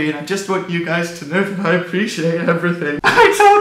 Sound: fake crying

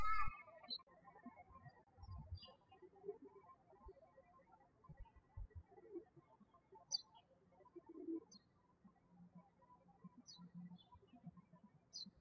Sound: birds chirping

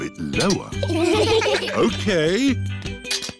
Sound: laughter

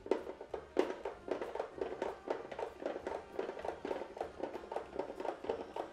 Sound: vegetable spiralizer clacking

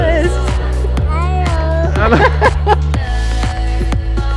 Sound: laughing; ambient music

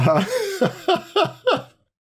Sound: laughter

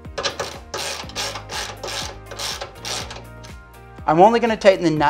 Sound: socket wrench clicking

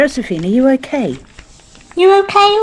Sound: papers moving

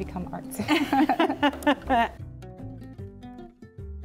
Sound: both chuckle; soft bright music

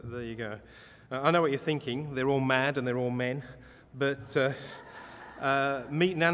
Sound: audience laughter

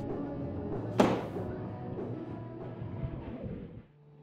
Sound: painting slams

